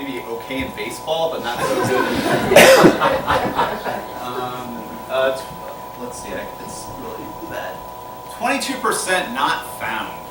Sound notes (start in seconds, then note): 4.4 laughter